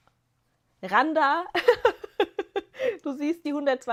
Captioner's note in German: gelächter